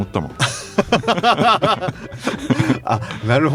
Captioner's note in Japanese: 笑い